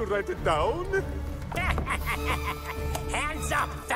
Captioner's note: yago cackles